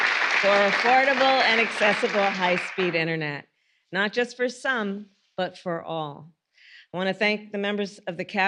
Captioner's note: applause